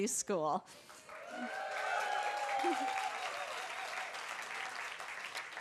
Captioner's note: applause